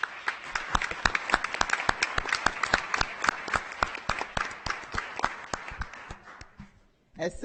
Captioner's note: audience applauding